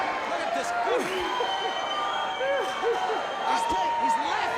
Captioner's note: laugh